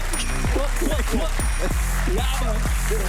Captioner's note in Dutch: pop-pop-pop